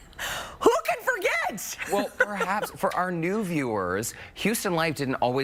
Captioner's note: laughter